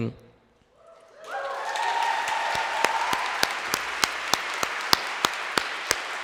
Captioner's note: audience cheering and applauding